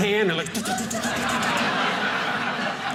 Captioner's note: audience laughing